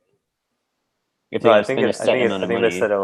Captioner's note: hubbub